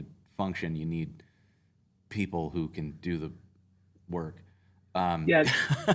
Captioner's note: laughter